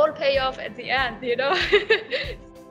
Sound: laughs

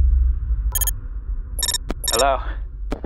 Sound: computer sounds

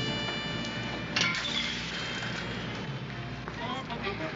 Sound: metallic clank

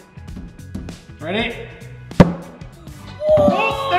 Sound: banging; drumming; banging

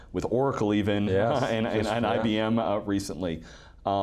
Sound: chuckling

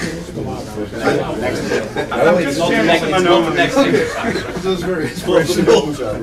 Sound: laughter

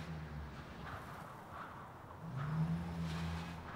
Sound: wind whips

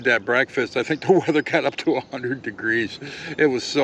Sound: laughing

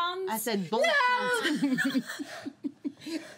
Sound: speaks in foreign language

